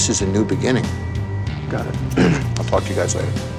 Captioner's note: clears throat